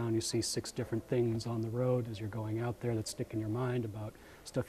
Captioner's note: none